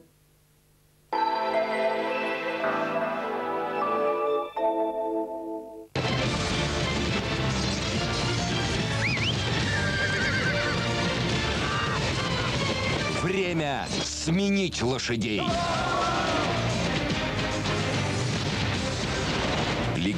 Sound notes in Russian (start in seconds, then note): 6.0 свист